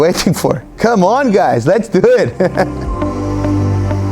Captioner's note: laughing; gentle upbeat music